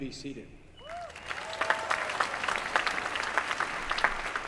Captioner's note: applause